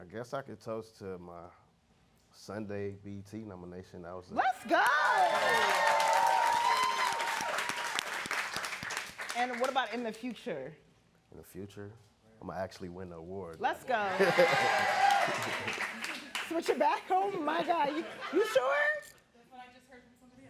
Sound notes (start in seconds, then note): 4.4 audience clapping and cheering; 14.0 audience clapping and cheering